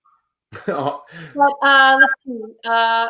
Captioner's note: laughs